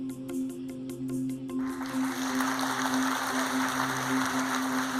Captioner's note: applause